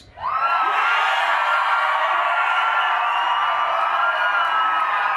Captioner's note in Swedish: Applåder